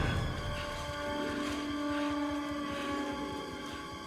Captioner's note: panting